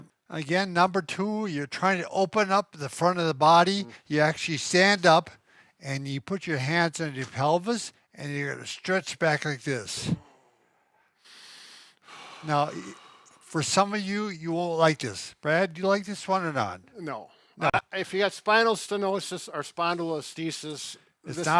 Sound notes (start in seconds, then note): 10.0 exhales